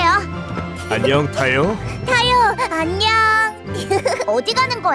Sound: giggles

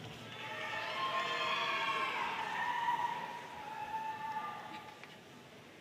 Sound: audience cheering and applauding

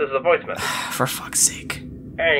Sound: sigh

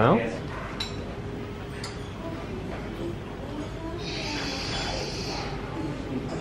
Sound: commuters chatting indistinctly

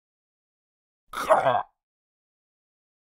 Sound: sound of zombie

